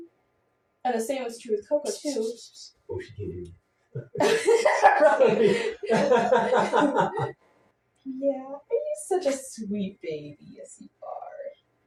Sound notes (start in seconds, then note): 4.0 laughing at the cats behaving funny